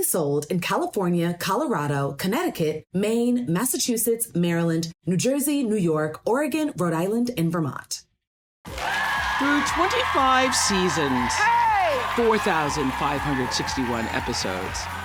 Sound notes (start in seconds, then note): 8.6 cheering